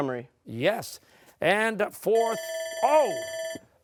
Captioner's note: bell rings